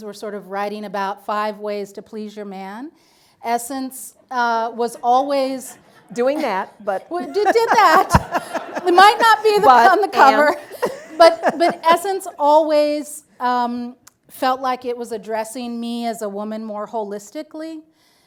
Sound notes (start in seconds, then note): 6.9 audience laughing; 10.9 laughs